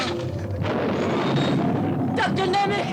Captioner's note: Nemek groaning; thunder rumbles